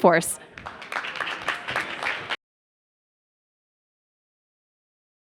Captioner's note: audience applauding